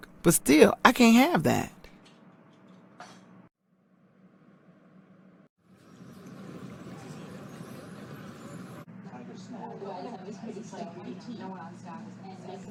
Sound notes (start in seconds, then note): 4.8 outdoor street sounds; 8.8 diner background sounds